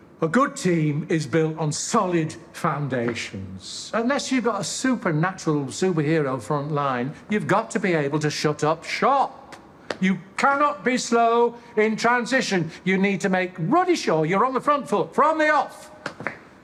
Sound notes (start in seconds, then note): none